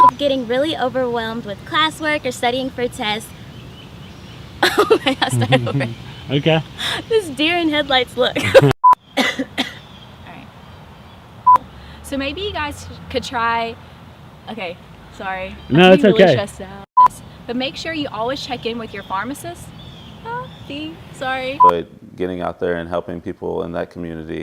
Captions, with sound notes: getting really overwhelmed with classwork or studying for a test I'll start over. This deer in headlights look. (Coughing and hacking) Alright. So maybe you guys could try... Ok. Sorry. No it's ok. I'm really stressed out. But make sure you always check in with your pharmacist... Ahh, a bee! Sorry. getting out there and helping people in that community